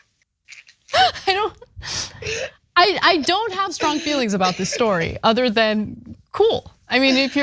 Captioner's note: laugh; laugh